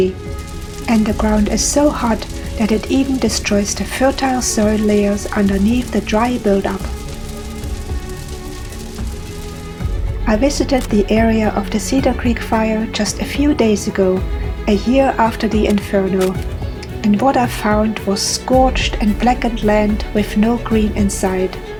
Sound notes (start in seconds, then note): 7.0 sound of fire